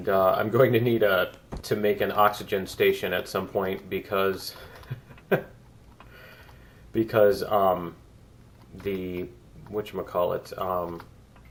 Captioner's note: laughs